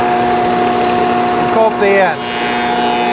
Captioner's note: whirring